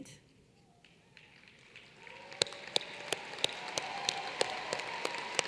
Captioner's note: applause